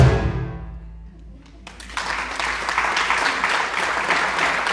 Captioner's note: audience clapping